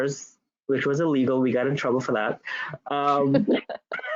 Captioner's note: laughs